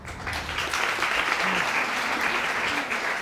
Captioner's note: audience applauding